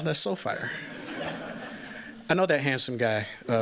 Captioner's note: laughter